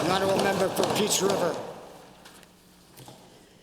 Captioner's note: applause